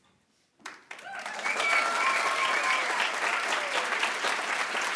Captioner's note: attendees applauding